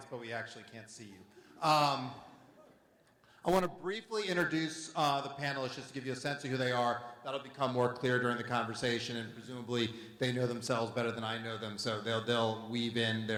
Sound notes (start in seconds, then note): none